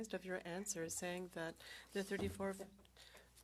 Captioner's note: speaking French